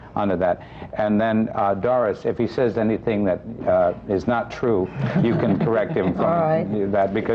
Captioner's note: laughter